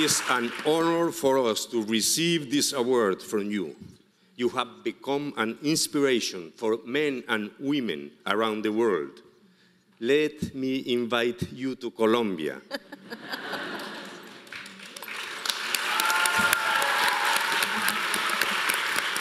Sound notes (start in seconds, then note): 12.7 audience laughing; 15.9 audience applauding